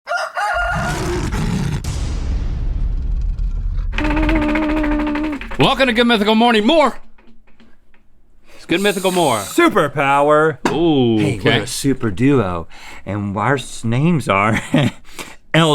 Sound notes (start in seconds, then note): 0.0 rooster crowing; 0.6 lion roaring; 3.9 wheel ticking